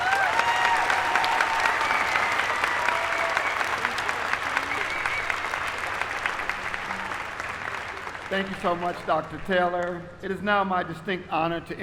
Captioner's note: applause